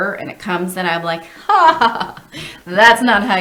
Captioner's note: laughs